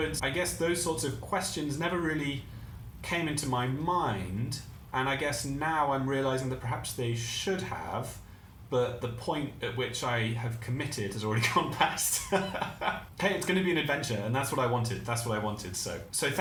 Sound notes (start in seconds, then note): 11.6 laughs